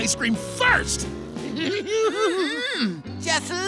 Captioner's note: giggles